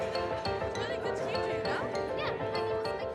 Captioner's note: girls chatter